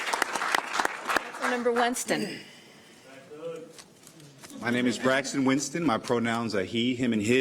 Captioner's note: applause